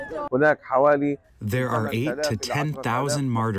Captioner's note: through translator